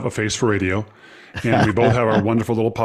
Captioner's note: chuckles